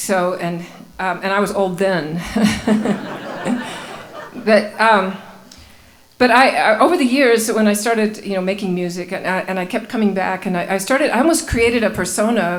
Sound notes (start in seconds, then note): 2.2 laughing